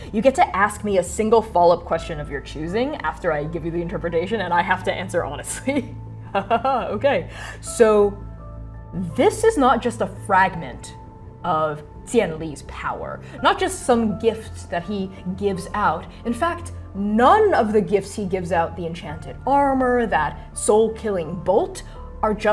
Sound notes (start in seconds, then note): 6.4 laughing